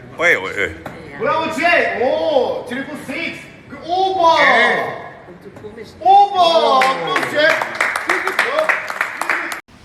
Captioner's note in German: Spielleiter applaudiert